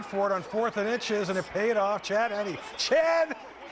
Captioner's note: cheering